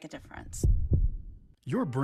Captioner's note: heartbeat